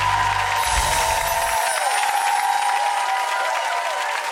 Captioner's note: audience cheering